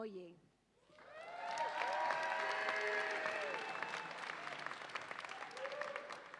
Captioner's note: audience applauds and cheers